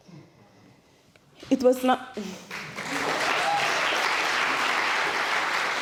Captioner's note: applause